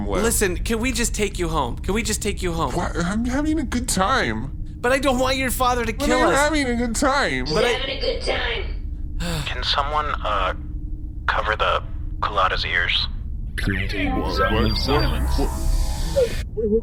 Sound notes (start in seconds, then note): 9.2 sighs